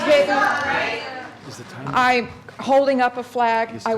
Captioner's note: crowd shouting out